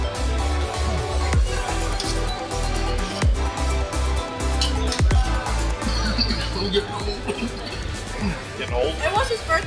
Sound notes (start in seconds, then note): 5.2 coughs